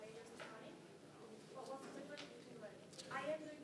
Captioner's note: speaking faintly